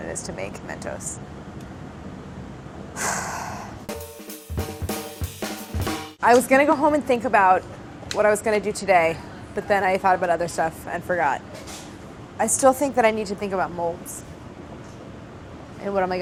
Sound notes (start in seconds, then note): 2.9 sighs; 3.9 upbeat jazzy music